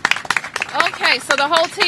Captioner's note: applause